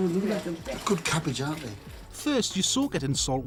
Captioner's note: speaking Korean